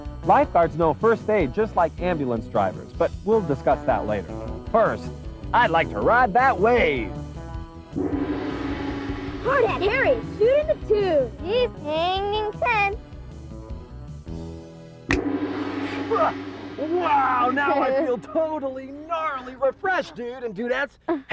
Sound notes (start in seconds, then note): 7.9 gong; 14.9 finger snaps; 15.1 gong